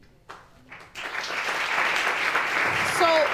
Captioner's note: audience applauding